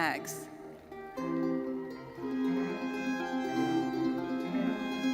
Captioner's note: audience applauding; audience cheering; lively uplifting music continues